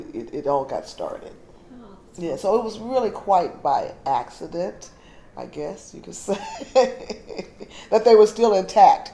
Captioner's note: laughter